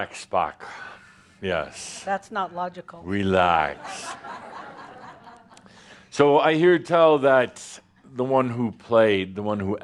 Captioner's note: laughter